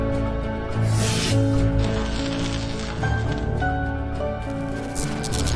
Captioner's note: electricity sizzling